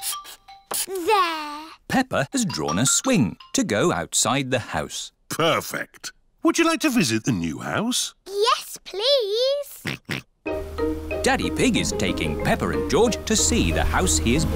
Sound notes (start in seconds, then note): 9.8 oinks